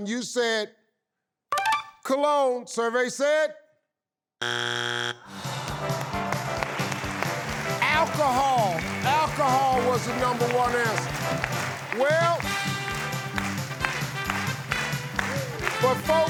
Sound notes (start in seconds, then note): 1.7 tinkling; 4.6 buzzing; 5.3 audience awwing; 8.3 audience applauding; 12.9 lively orchestral music